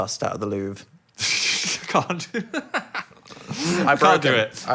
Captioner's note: laughs